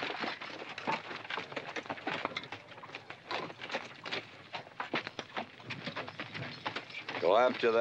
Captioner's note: horses trotting